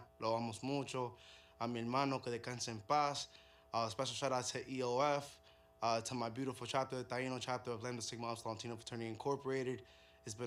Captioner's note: speaking in native language